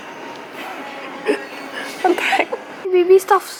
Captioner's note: giggles